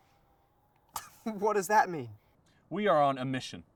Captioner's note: scoffing